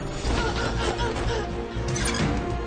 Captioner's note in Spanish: Gruñidos